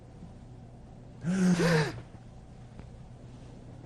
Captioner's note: gasps